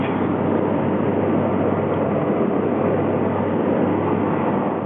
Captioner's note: plane roaring